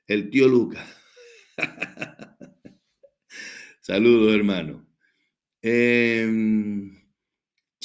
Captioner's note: laughs